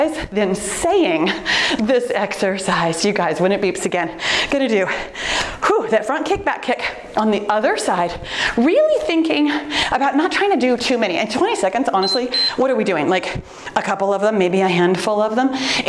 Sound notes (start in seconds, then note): 12.0 timer beeps